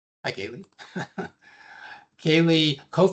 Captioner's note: chuckles